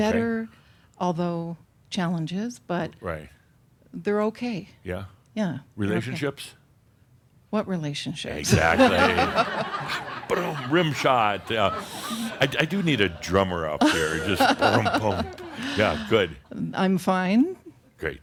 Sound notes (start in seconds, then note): 8.4 laughter; 14.9 chuckles